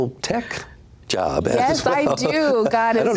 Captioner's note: laughs